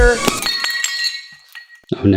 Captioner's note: glass shattering